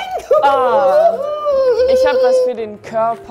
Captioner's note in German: Aufgeregte Laute